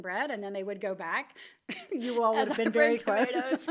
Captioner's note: laughs